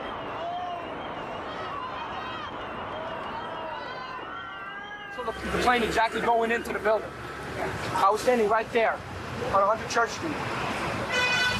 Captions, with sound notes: (onlookers shouting) - I saw the plane exactly going into the building. I was standing right there on 100 Church St.